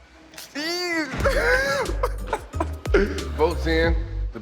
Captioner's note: laughs